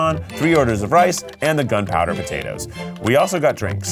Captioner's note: graphics clicking